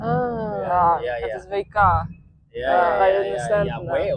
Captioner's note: speaking in Dutch